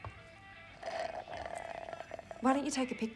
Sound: slurps

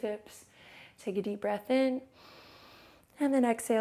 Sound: inhales

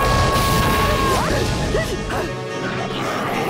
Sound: screaming; panting

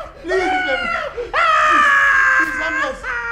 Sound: screams

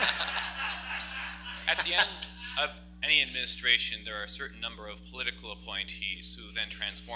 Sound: laughs

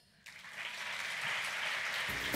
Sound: applause

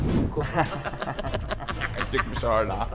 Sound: sneaky laughter

